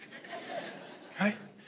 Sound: congregation laughing

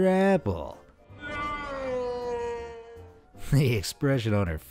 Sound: Darth Vader shouting "No!"

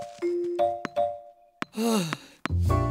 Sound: sigh of relief

